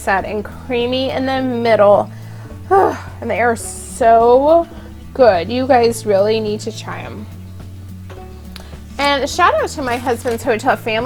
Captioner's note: gasp romantically